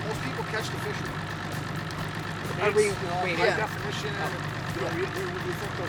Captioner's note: talking